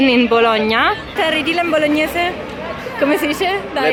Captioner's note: dialect; in Bologna dialect